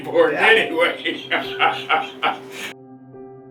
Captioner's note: laughing